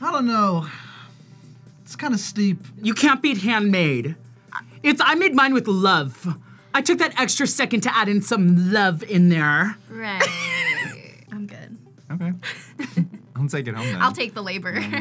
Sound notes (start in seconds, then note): 10.2 laughs